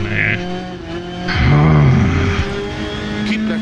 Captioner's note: angry grumbling